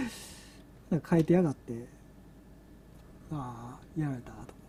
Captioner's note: laughs; laughs